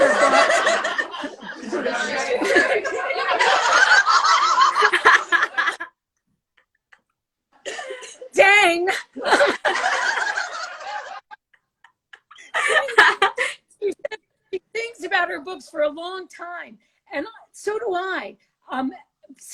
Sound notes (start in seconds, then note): 0.0 all laugh; 4.7 laughs; 9.0 all laugh